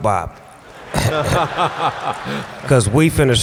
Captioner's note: laughter